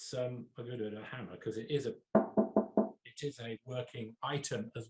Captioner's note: knuckles rapping